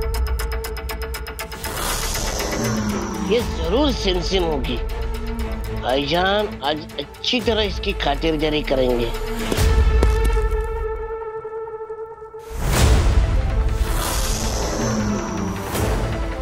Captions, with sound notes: [dramatic music playing] This must be Simsim for sure. Brother will greet her well today. [footsteps approaching] [intense music playing]